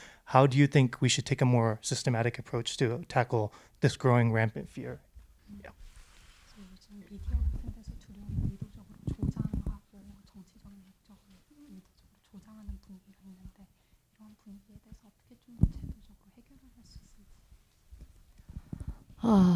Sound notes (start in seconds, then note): 7.3 translator speaking in Korean